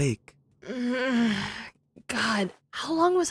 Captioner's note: groaning